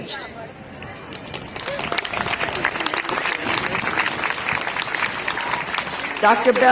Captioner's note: applause